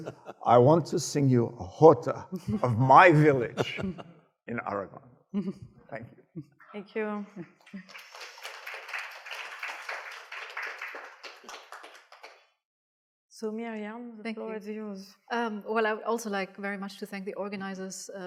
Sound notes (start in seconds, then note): 7.6 audience applauding